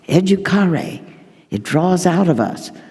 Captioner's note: speaking in foreign language